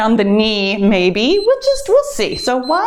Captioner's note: timer beeps